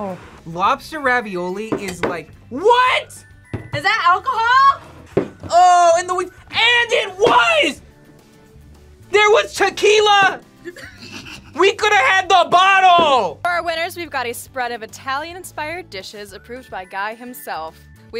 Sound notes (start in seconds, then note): 10.6 laughs